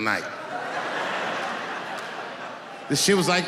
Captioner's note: laughing